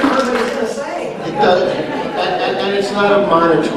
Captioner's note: laughter